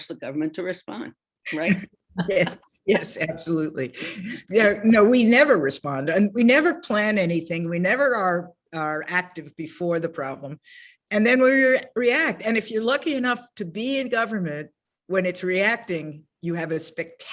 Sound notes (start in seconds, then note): 2.1 laughs